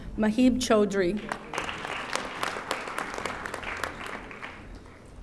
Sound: audience applauding

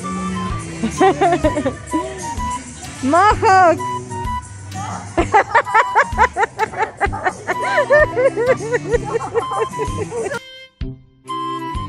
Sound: laughs

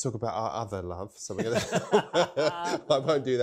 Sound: laughs

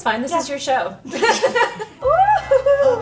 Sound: laughing

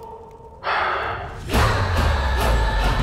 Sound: sighs

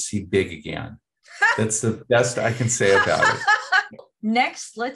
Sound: me laughing

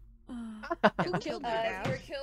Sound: laughs

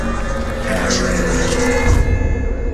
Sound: creepy Voice

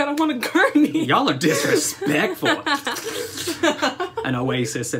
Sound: laughter

